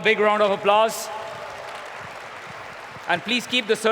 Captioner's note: applause